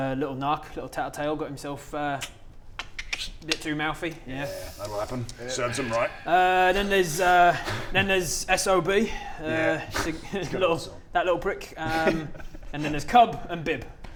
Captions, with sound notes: little narc, little tattle-tale got himself uh *click click* bit too mouthy yeah that'll 'appen serves him right Uh then there's uh then there's SOB yeah - little - good old SOB that little prick and then there's CUB and BIB